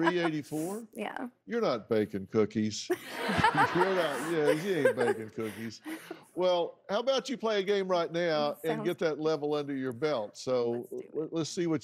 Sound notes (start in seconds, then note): 0.0 chuckling; 3.0 audience laughing